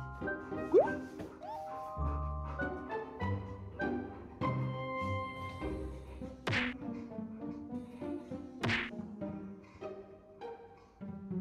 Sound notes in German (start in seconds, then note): 6.3 Tap, tap